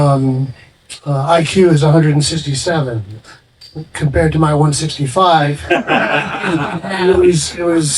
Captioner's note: laughing